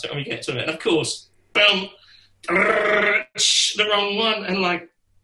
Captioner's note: mimics drums